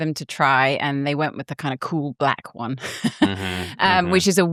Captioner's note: laughs